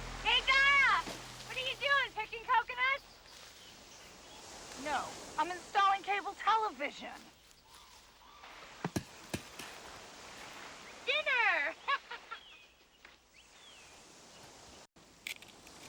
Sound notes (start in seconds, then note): 8.8 coconuts thudding; 11.7 laughs